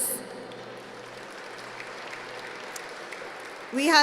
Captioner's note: applause